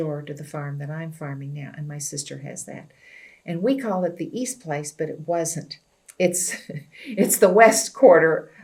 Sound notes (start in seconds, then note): 6.3 laughs